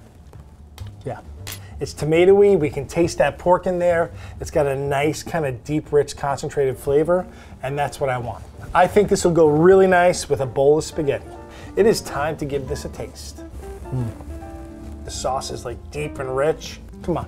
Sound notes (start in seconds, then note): 13.9 grunting